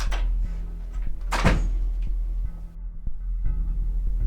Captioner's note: door closes; intense music